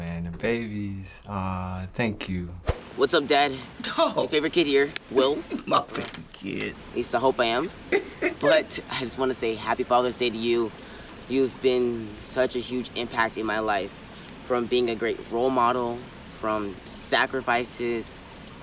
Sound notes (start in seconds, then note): 7.8 laughs; 7.9 chuckles